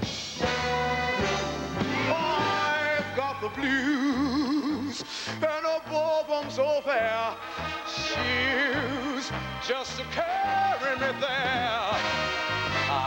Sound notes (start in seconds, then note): none